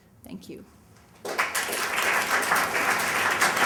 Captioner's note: applause